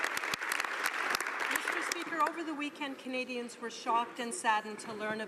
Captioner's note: some Applause